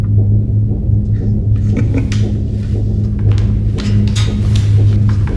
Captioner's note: Mr. Keith chuckles